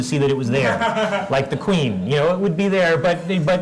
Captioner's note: laugh